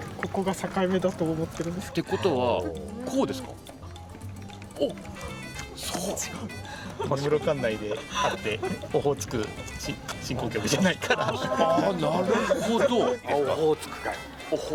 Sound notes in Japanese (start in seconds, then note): 5.8 鼻息; 13.0 笑い